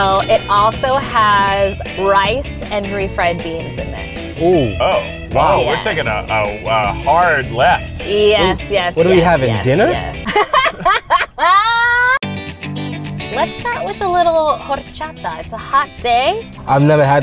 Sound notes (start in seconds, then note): 9.0 laughing